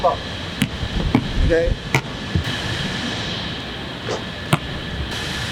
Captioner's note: machinery whirring